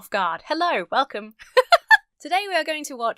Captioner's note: laughs